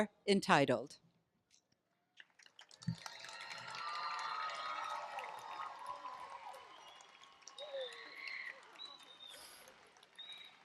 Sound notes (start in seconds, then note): 2.0 applause and cheering